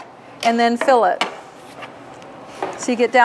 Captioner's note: scraper scraping